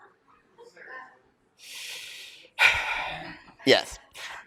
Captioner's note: big sigh